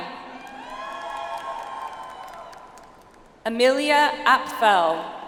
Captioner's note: audience applauds